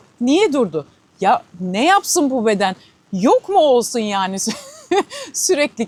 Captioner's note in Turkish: kahkaha